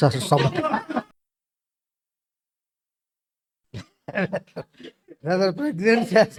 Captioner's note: laughs